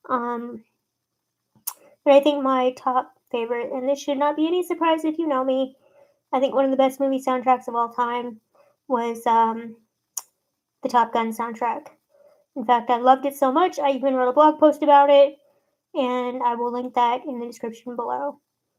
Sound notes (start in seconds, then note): 0.5 sucks teeth; 9.3 sucks teeth